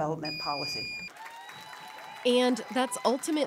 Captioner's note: attendees applauding; attendees cheering